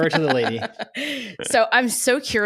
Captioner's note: laughs